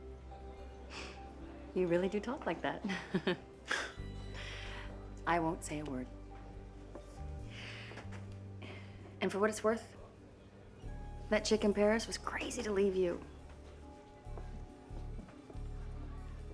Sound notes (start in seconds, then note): 2.9 chuckles weakly